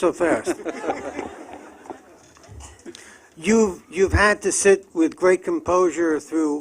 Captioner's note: laughter